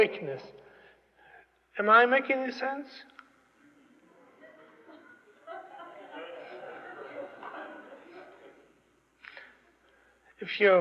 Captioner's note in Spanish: Risas